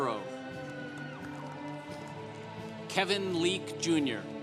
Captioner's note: congregation applauding